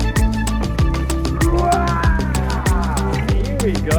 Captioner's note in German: beschwingte Musik; grunzt